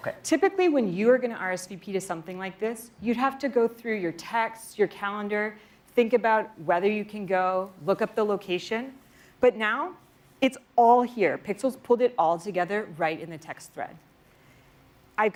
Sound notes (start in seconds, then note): none